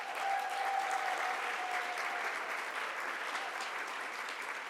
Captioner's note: audience applauds